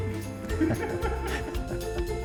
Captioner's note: laughing